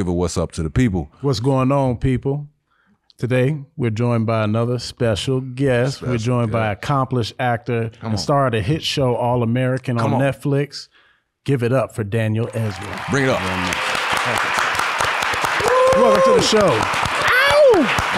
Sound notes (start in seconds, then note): 12.4 audience applauding